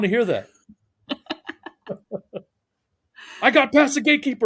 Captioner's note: laughing